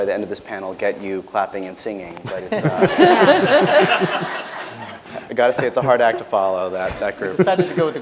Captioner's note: laughter